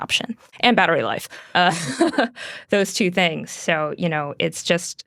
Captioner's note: laughs